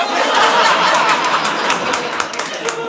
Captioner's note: audience laughing